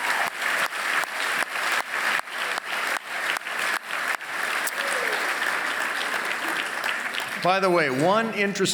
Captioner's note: applause